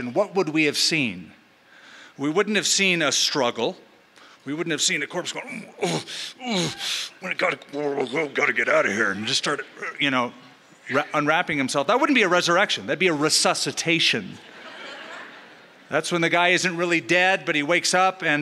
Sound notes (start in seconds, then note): 5.3 grunting